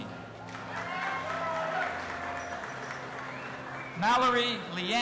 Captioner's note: audience applauding and cheering